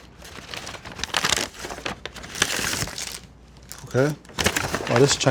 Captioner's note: paper crinkling